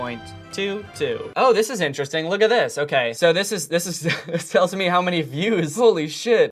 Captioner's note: laughter